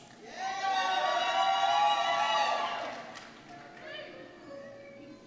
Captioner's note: cheers